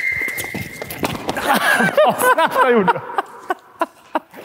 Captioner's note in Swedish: skratt